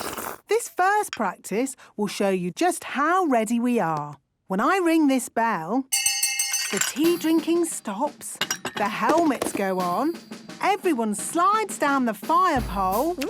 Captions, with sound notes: - This first practice will show you just how ready we are! When I ring this bell... - (hand bell ringing) - ...the tea drinking stops. - (tea cups clinking) - The helmets go on. Everyone slides down the fire pole...